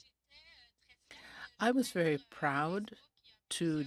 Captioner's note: speaking french